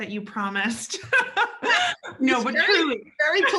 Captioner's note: laughs loudly